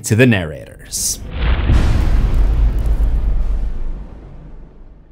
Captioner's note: impact